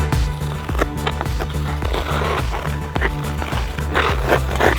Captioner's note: upbeat synthesizer music; squeals and scrapes